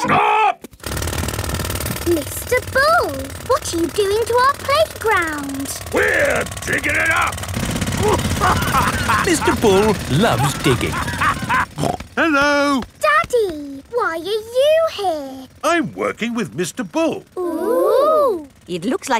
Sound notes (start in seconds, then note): 0.0 children laughing; 7.8 laughing